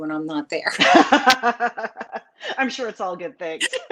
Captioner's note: laughs